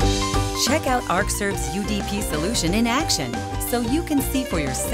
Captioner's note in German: Voice-over